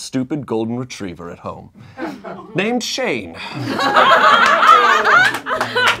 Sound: laughing

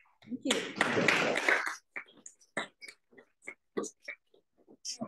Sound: applause

